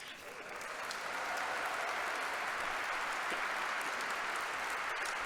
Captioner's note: congregation applauding